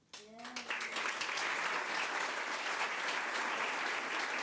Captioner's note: crowd applause